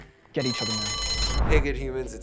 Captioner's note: bell rings